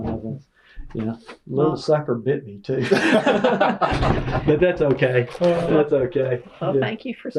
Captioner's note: laughter